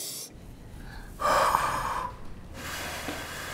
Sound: blowing

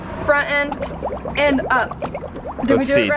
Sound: water bubbling

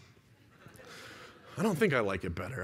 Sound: laughter

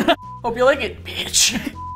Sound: strained

